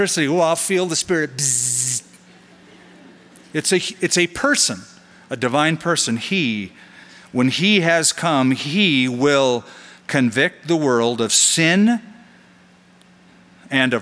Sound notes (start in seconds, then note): 1.5 makes zapping soung; 2.3 laughter